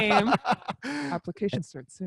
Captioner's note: laughs